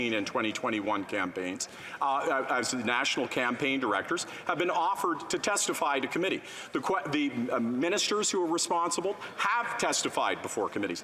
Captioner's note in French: voix de l'interprète